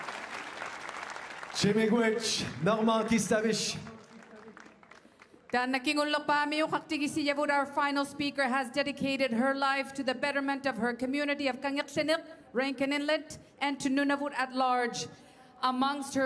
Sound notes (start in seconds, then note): 0.0 applause; 7.5 speaking French; 10.6 speaking Indigenous LANGUAGE